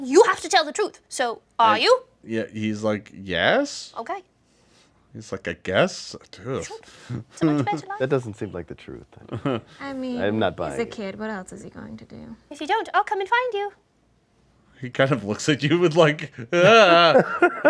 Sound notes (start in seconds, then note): 7.2 scoffs; 16.6 wails